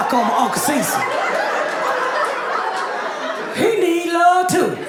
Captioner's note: audience laughing